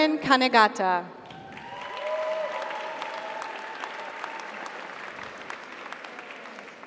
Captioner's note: audience applauds; audience cheers